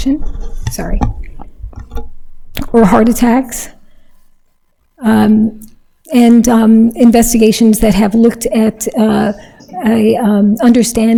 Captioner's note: adjusts microphone